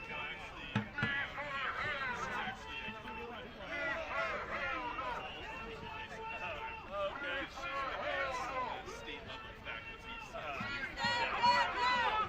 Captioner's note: chanting